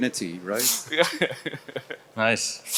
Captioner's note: laughs